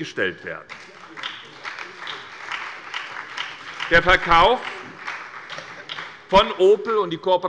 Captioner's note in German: Beifall bei der SPD und bei Abgeordneten der CDU